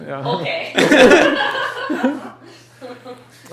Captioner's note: laughter